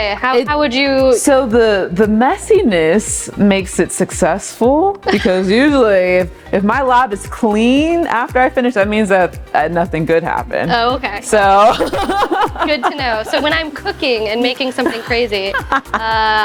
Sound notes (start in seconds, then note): 11.5 laughing